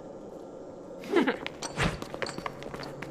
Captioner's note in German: Auflachen